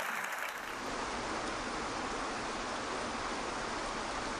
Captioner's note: water rushing